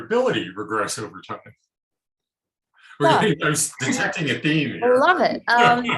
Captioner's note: chuckling